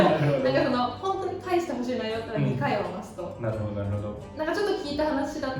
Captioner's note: laughs